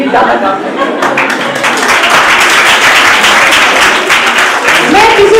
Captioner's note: everyone claps